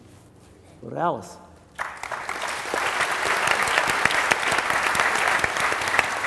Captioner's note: applause